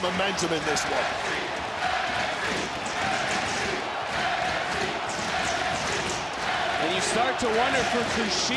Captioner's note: audience chanting "nxt"